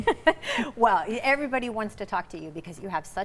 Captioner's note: laughing